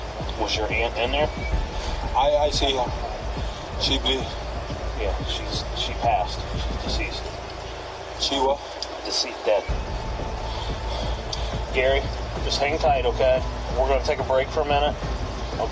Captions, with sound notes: - Was your aunt in there? - Yeah, she passed. She's deceased. - Decea-, dead. (tense music continues) (heavy breathing continues) Gary, just hang tight. Okay? We're gonna take a break for a minute.